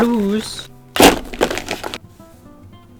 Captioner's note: markers thudding on desk